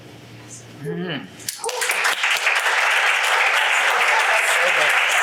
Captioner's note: audience applauds